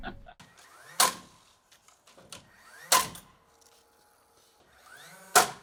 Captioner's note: nail gun popping